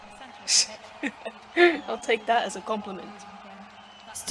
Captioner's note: laughs